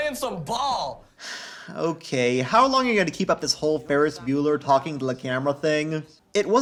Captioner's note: sigh